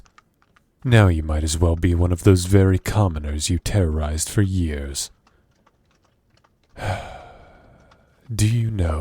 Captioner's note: sigh